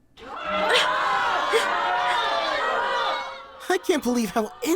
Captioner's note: cheering